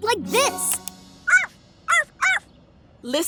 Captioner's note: barking